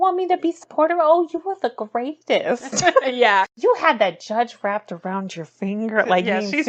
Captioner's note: laughs